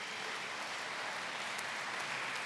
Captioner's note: applause